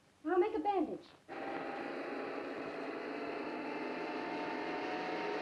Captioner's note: car engine roars